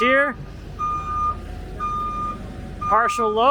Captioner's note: truck beeps